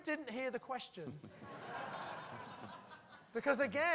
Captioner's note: laughter